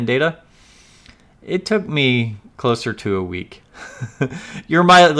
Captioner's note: laughs